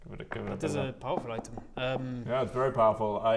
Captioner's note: knock knock knock